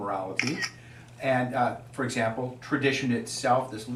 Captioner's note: camera shutters